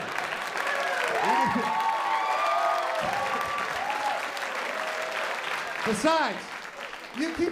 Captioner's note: applause